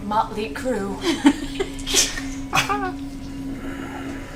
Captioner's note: all laugh